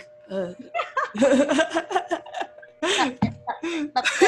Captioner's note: laughs